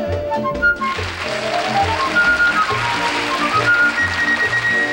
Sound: audience applauds

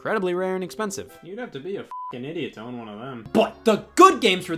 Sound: beep

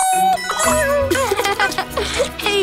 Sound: laughing

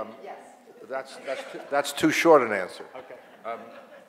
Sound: audience laughs

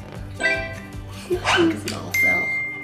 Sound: phone beeping

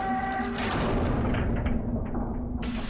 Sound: door slams shut

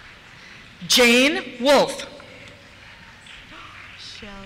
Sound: applause

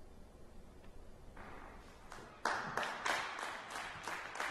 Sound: clapping

